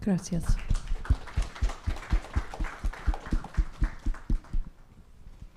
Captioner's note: audience applauding